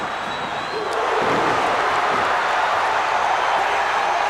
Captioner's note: crowd cheers